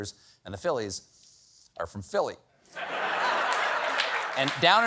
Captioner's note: laughter